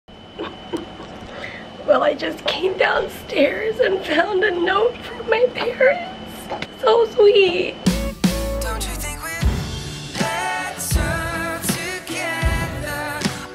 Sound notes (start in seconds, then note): 1.4 crying